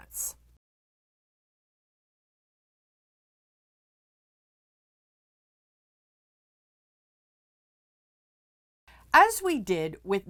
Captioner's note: no Sound Present